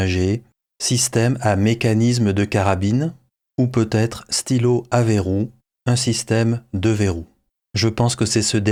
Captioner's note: in french